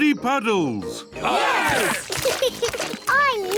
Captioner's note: laughs; cheering